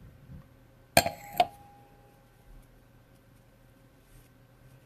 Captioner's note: glass clattering